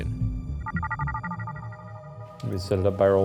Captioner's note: computer chiming